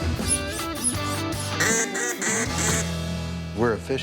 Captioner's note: duck call sounds